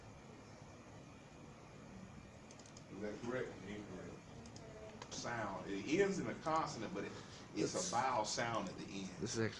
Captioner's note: clicking